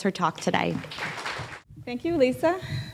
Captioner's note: audience clapping